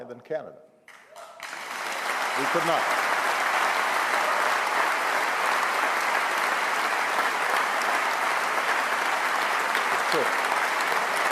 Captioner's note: applause